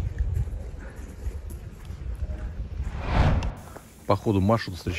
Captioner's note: sound of footsteps